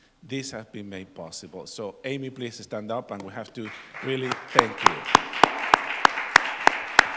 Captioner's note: applause